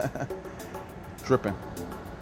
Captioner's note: laughs